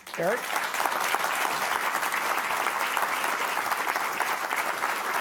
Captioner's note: audience applauding